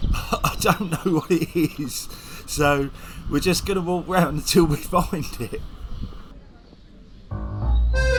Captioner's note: laughing